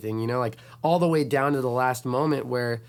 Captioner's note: none